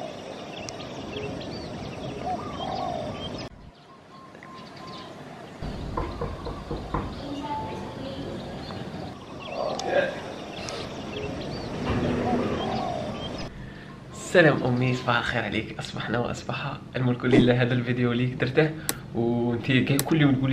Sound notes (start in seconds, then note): 2.3 knocking on the door